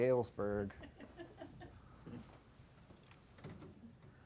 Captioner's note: laughter